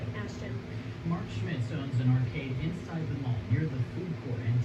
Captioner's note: on TV